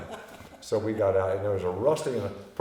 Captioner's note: laughing